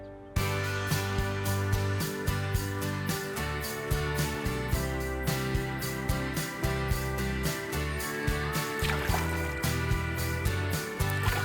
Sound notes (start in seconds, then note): 8.5 water splashes